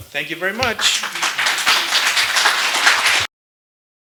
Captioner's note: applause